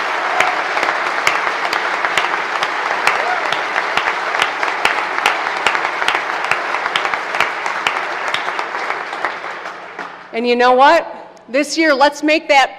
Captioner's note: applause